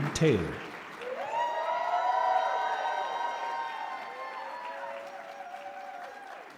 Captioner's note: audience cheers and applauds